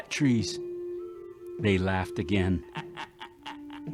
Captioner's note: laughing